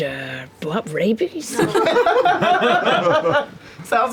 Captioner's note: laughter